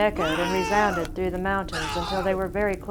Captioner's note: man screaming